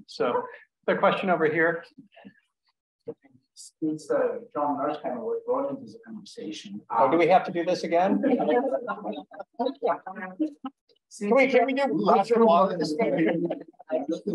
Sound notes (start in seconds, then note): 8.0 group laughs